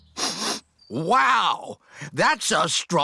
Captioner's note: sniffs